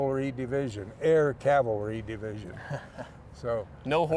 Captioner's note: laughs